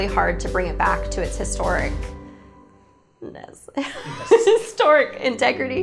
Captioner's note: laughing